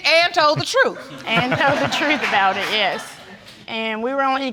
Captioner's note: all laughing